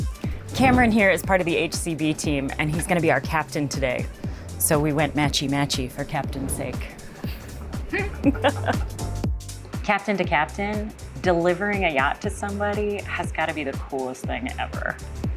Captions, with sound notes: - Cameron here is part of the HCB team, and he's gonna be our captain today. So we went matchy matchy for captain's sake. (laughs) Captain to captain, delivering a yacht to somebody has gotta be the coolest thing ever.